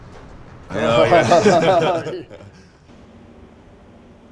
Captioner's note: laughs